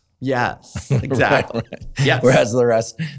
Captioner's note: laughs